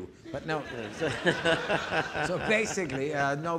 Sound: audience laughing

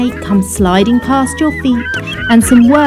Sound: seagulls squawking

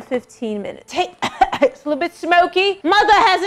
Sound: coughs

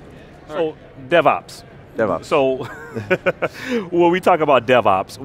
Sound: laughing

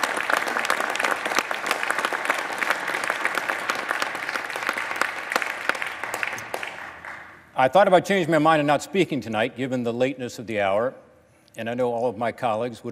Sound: applause

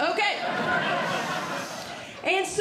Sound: audience Laughing

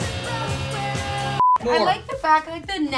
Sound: beep

